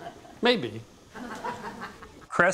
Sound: laughter

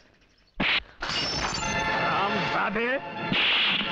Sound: glass shatters

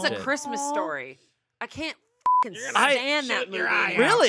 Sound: beep

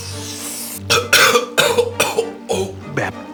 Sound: coughing

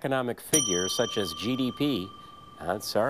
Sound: bell dings

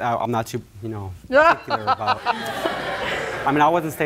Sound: laughing

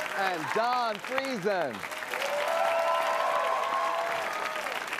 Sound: cheers and applause

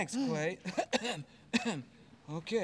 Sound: clears throat

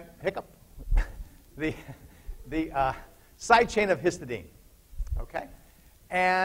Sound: laughter

